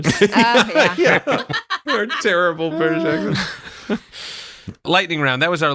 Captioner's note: laughs